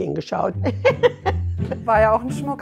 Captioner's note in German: Herzliches Lachen